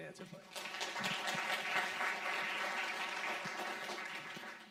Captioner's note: audience clapping